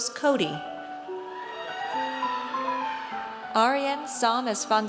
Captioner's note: audience cheers